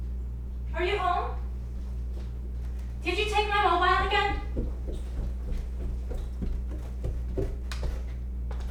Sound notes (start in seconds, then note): 4.9 sound of footsteps coming up the stairs